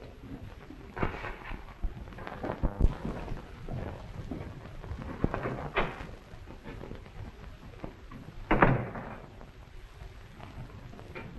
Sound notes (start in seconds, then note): 8.5 door closes